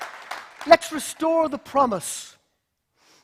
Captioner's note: applause